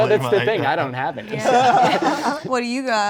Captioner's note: laughing